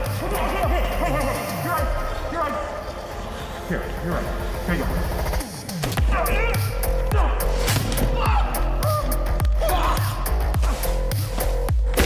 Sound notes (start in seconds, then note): 5.7 plastic slamming; 8.1 case hitting concrete